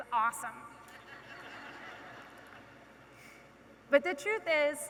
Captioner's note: audience laughing